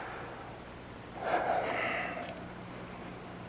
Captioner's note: sighs